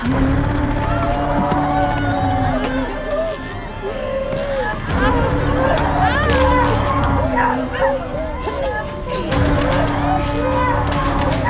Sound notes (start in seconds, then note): 1.7 passengers crying